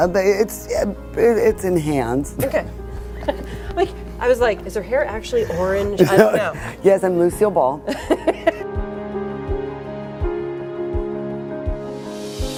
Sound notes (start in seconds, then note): 3.1 laughing; 7.9 laughing; 9.3 light piano music